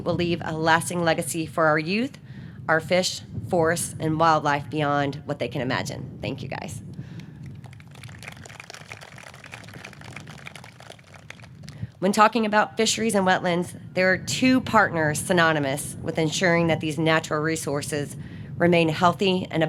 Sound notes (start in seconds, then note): 7.4 audience clapping